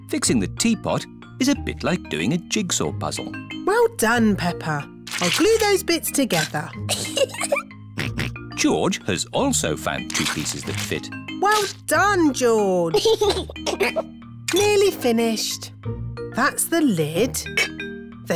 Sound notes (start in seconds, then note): 6.8 giggles; 8.0 snorts; 12.9 giggles